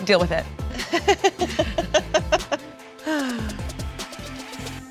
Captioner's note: laughing